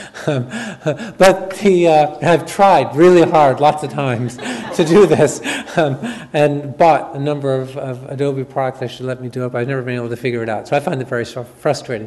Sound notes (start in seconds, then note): 0.2 chuckles; 3.2 audience laughs